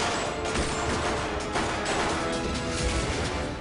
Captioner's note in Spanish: Disparos